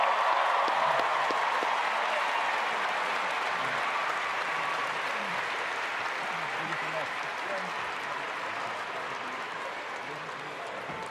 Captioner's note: cheers and applause